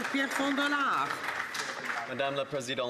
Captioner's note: some Applause